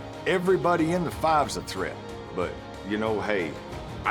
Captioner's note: none